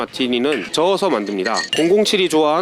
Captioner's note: Stir